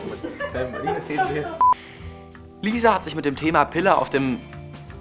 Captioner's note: Gelächter